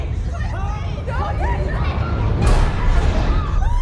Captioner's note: violent rumble